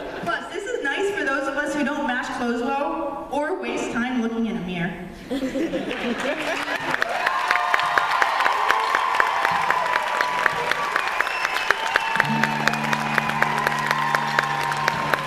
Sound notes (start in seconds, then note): 5.3 laughter and applause